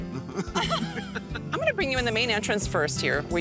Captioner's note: laughing